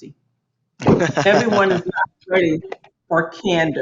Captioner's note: Marco laughs